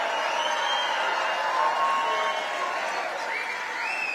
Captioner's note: applause